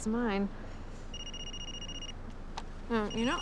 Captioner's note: cell phone rings